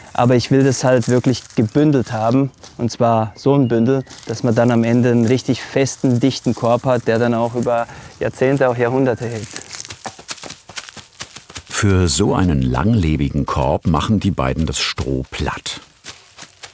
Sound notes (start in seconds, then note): 9.9 crinkling sound